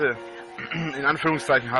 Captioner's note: clear throat